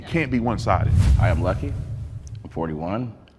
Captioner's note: whoosh air